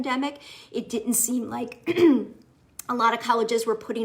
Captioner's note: clears throat